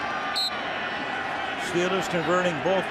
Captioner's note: whistle blowing